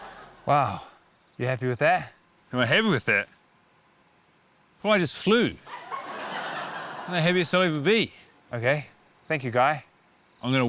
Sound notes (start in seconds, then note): 5.6 laughter